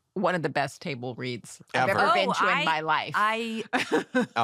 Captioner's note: laughs